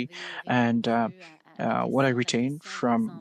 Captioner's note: speaking in French